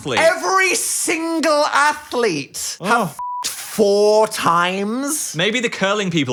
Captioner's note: beep